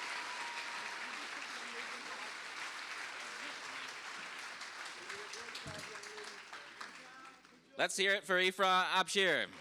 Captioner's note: cheers and applause